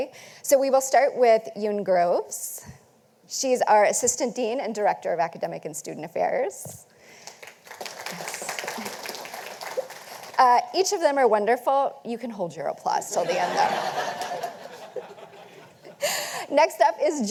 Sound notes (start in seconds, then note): 7.3 audience applauding; 13.1 audience laughing